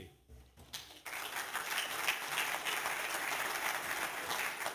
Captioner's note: applause